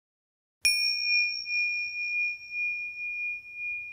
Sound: bell chiming

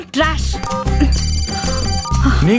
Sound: phone rings

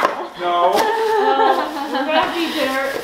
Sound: laughs

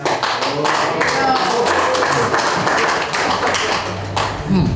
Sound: crowd clapping

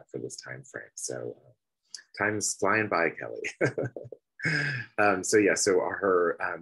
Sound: laughs

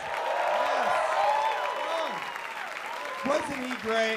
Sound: applause

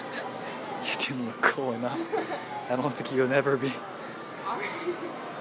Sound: laughs; laughs

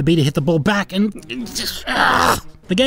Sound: frustrated racc noises

